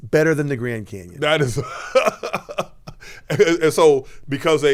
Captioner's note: laughing